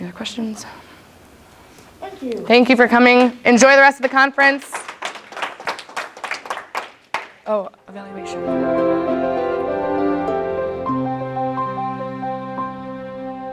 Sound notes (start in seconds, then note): 4.0 applause